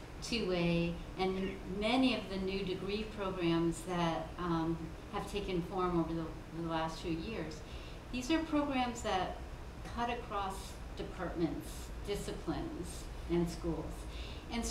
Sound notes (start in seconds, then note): none